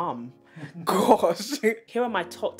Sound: chuckle

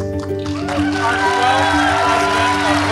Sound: audience claps

